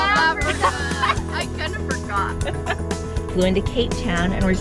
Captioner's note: laughs